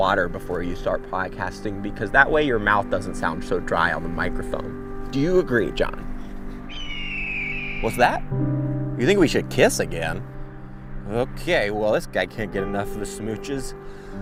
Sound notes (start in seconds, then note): 6.6 hawk screeching